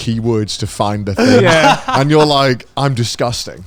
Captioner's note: laughs; everyone laughing